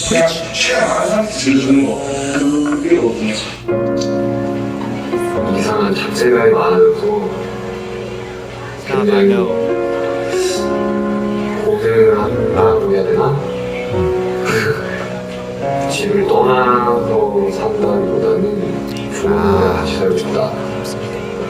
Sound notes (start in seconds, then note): 13.9 empty laugh